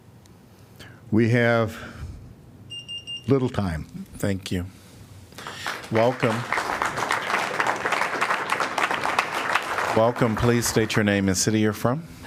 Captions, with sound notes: We have little time. Thank you [APPLAUSE]. Welcome please state your name and city you're from.